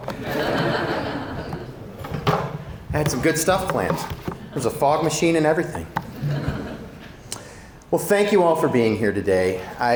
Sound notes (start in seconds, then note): 0.0 audience laughing; 6.0 audience laughing